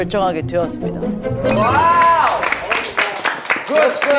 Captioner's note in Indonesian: Tepuk tangan